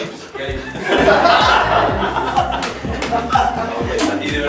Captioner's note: laughs